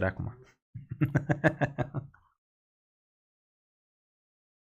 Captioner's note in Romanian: Râsete